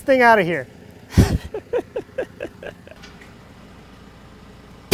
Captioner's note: laughing